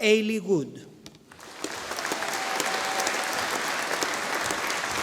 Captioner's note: audience applauding